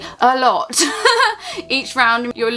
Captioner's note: chuckles